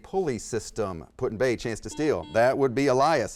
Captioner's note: beeping